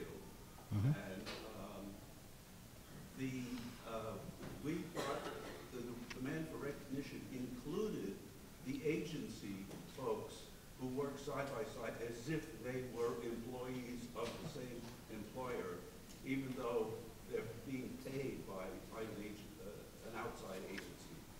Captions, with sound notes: and the (coughing) the demand for recognition included the agency folks who work side by side as if they were employees of the same employer even though they're being paid by an outside agency.